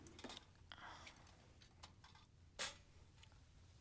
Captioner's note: whispering